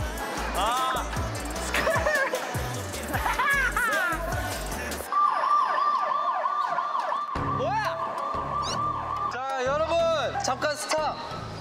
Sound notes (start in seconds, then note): 5.0 the sudden sound of a siren; 5.0 siren wailing